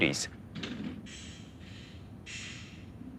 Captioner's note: rolling and hammering